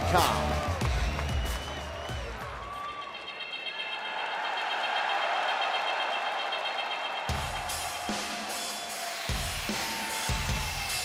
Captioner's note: crowd cheering